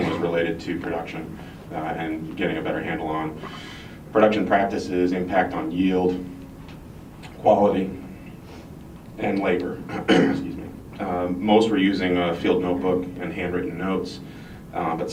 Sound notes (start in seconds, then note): 9.8 clears throat